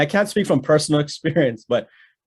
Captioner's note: chuckles